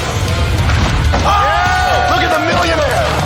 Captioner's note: cheers